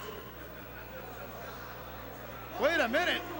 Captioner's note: crowd chatter